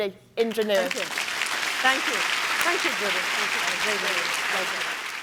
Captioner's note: applause